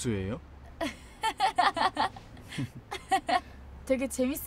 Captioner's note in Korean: 웃음 소리